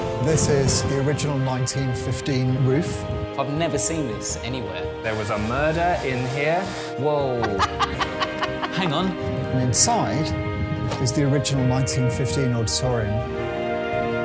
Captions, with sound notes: This is the original 1915 roof. I've never seen this anywhere. There was a murder in here. Whoa. [laughter] Hang on. And inside is the original 1915 auditorium.